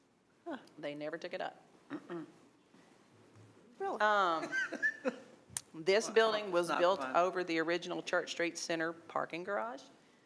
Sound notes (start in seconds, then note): 4.3 laughing; 6.7 speaking quietly